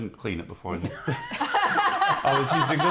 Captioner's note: laughter